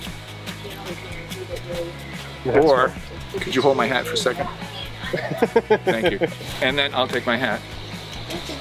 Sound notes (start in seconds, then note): 0.1 upbeat music; 5.2 laughs